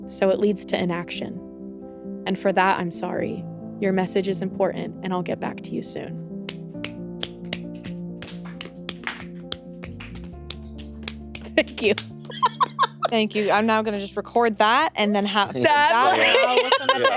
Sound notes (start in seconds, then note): 6.7 gentle music; 8.2 both applauding